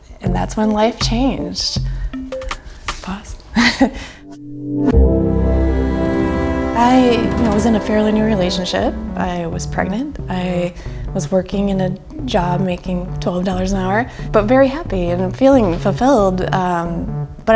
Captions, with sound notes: and that's when life changed pause (laughs) I was in a fairly new relationship I was pregnant I was working in a job making twelve dollars an hour but very happy and feeling fulfilled